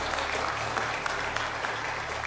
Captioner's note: crowd clapping